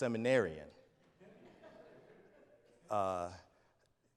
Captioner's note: audience laughs